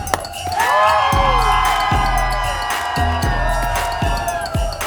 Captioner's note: energetic music; people cheering